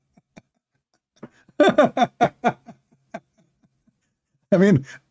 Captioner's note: Ketawa